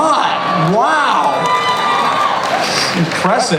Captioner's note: cheers